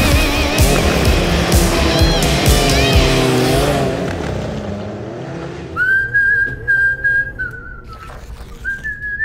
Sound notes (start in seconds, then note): 0.0 upbeat rock music; 5.7 whistling